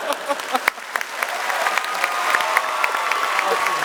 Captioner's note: applause